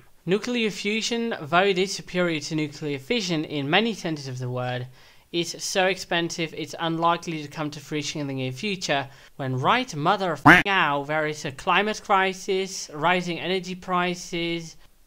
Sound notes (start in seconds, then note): 10.4 quack